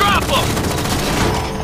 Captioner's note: gunfire